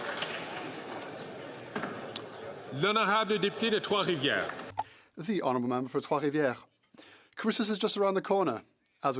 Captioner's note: some Applause